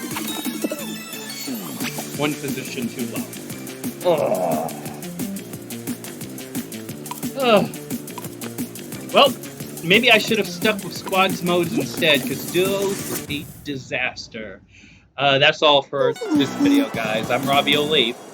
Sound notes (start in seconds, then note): 4.0 groan